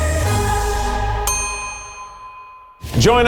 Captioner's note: bell dinging